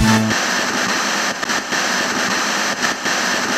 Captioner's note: static